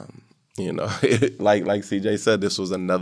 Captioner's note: chuckles